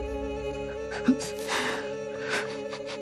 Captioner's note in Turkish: Ağlıyor